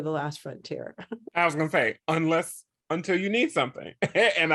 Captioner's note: scoffs